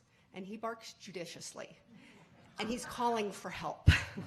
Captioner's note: audience chuckling